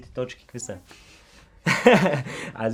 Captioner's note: laughs